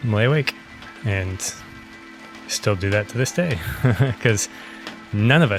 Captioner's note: laughs